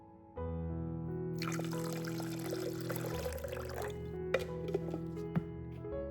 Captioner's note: water